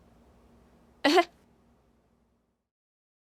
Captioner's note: chuckles